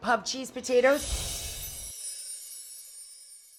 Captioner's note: chimes